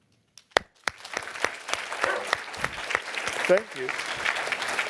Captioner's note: applause